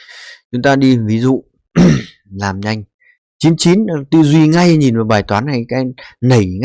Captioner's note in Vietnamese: hắng giọng